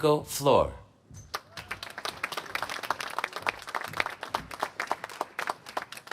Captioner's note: applause